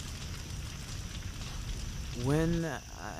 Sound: cricket chirps

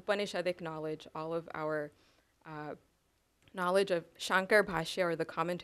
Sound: non-english

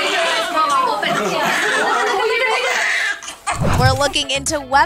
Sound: baby crying

